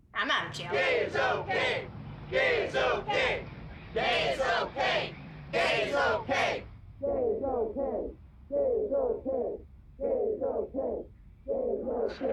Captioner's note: group chanting gay is okay!